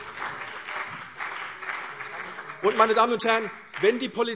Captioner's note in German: Beifall CDU und vereinzelt BÜNDNIS 90/DIE GRÜNEN